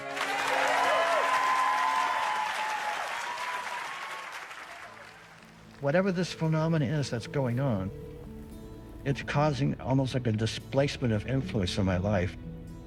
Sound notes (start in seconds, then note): 0.0 cheering and applause; 7.7 line ringing